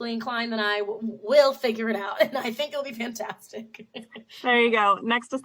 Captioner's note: laughs